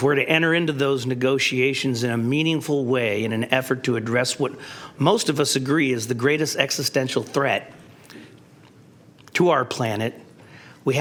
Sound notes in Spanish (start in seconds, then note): none